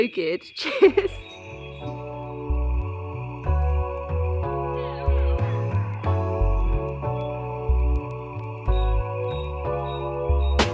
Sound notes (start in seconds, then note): 2.4 chill lofi music; 2.4 crickets chirping